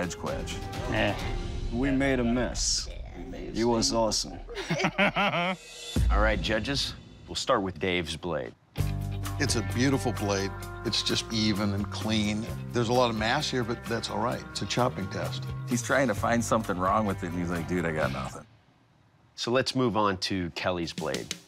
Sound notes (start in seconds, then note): 4.4 laughs